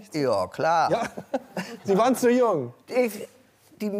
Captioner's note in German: lacht